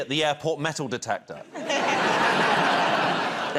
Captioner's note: laughter